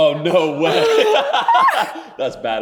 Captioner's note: both laughing